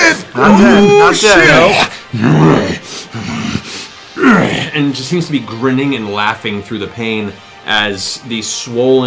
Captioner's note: growling